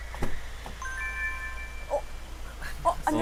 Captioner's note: the door to car opened